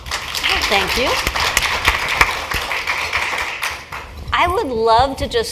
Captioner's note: applause